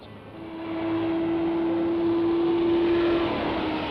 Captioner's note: vehicle whooshes